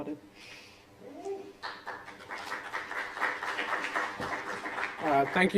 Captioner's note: applause